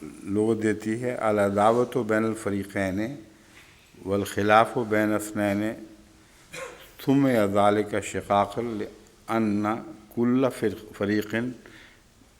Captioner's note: Arabic